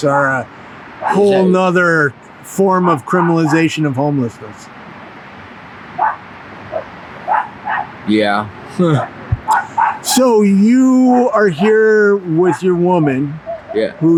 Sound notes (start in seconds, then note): 7.2 dog barks; 9.3 chuckles